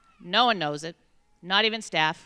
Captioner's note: none